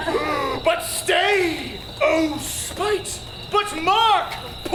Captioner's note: audience laughs; gasps